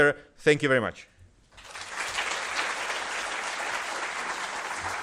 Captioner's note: applause